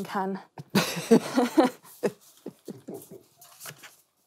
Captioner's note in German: Beide lachen